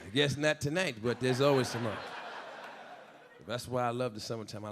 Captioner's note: audience laughing